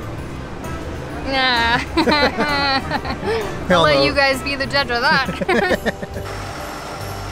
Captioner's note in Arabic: يضحك